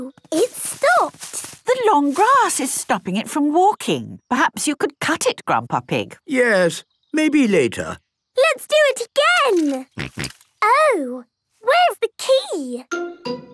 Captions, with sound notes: - Oh. It stopped. - The long grass is stopping it from walking. Perhaps you could cut it, Grandpa Pig. - Yes, maybe later. - Let's do it again! (snorting) Oh. Where's the key?